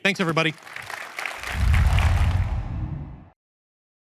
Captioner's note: applause